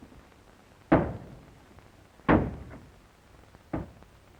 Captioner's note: knocking